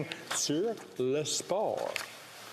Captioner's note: speaking French